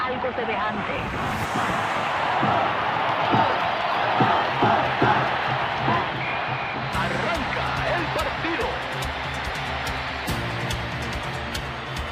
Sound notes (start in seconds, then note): 1.3 crowd cheers; 4.0 thudding, chanting; 9.0 exciting music